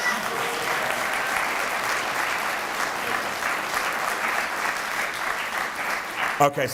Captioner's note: applause